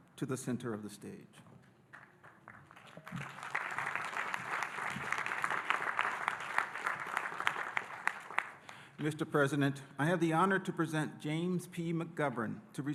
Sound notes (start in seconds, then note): 2.0 audience applauding